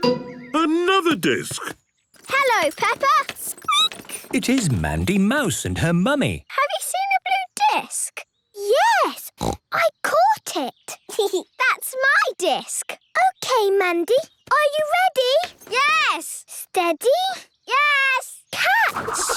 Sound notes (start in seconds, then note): 2.1 squeaking; 9.3 snorting; 10.8 giggling